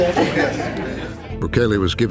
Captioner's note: laughter